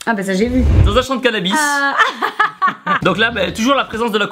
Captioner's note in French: Rires